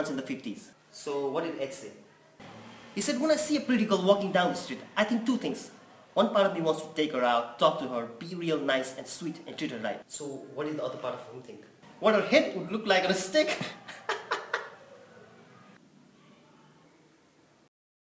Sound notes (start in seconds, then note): 13.6 crazy laugh